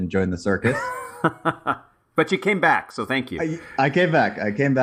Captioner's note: laugh